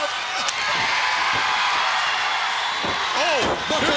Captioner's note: audience cheering